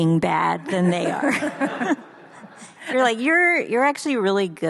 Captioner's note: audience laughs